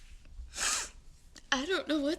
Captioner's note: Angelina sniffs